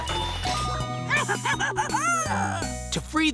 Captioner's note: giggling